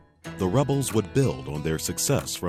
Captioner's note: voiceover